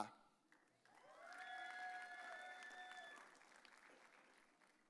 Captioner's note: audience cheering